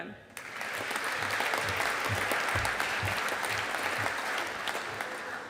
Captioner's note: audience applauding